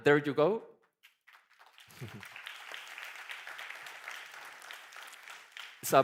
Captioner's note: applause